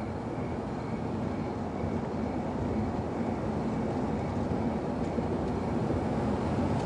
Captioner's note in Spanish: Sonido del automóvil